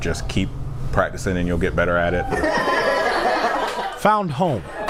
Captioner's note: laughter